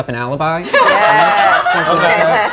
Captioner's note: group laughs